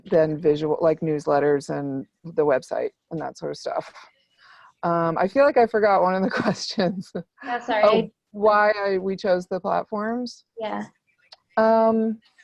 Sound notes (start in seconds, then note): 7.4 laughs